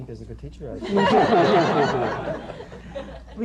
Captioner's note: laughter